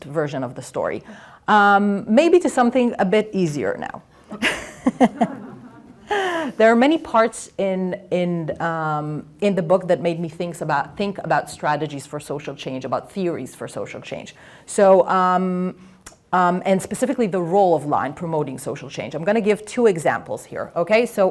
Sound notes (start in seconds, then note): 4.3 laughter